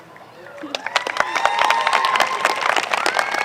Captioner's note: applause